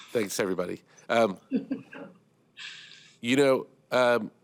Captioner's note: laughter